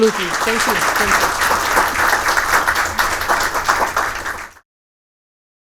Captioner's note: attendees applauding